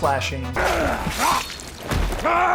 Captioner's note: grunting; more grunting